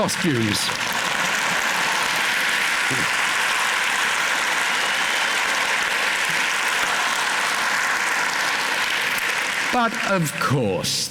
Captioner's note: applause